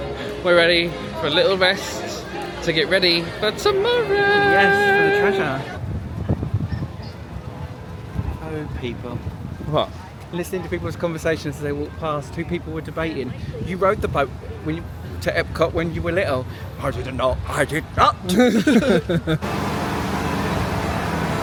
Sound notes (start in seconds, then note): 18.2 laughs